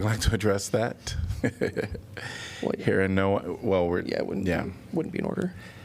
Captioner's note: laughter